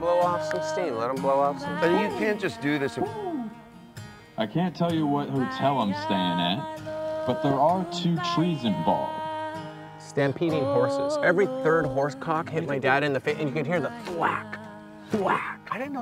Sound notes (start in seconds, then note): 3.1 hooting